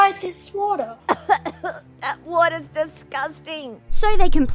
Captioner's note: coughing